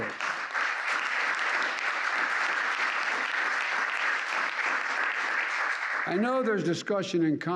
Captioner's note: applause